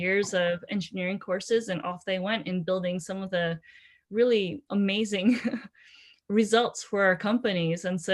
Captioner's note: laughter